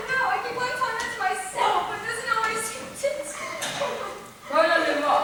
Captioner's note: crying